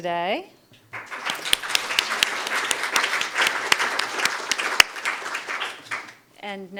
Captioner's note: applause